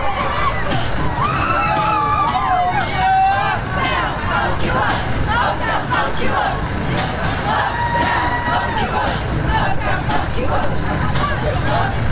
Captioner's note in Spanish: voces